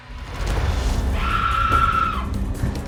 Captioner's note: screaming; tense chase music